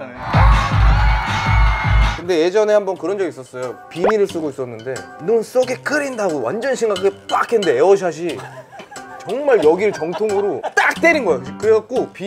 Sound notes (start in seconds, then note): 9.8 chuckling